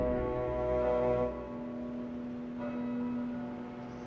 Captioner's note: church bells ringing